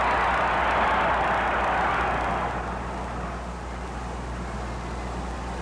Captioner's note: crowd cheers